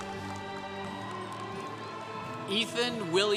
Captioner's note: congregation cheering